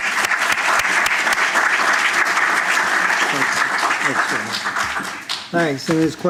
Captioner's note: applause